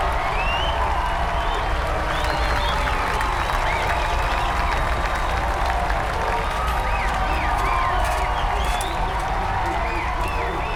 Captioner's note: cheering continues